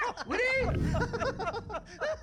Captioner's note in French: rires